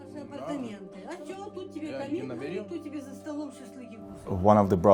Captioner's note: couple speaking Ukrainian